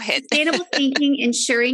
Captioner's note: laughs